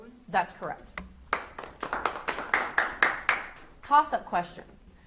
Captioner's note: audience applauds